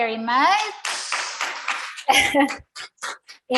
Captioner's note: audience applauding